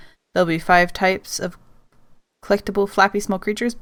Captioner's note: none